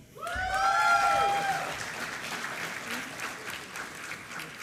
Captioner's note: applause